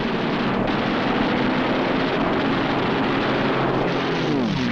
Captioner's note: guns firing